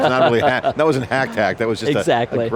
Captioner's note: laughter